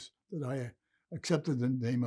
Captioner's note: none